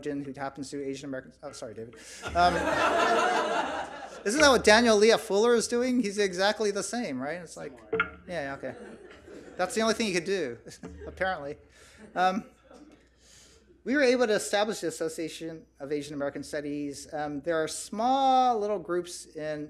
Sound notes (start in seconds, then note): 2.1 audience laughs; 8.6 audience chuckles